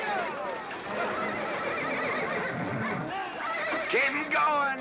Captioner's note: horse neighing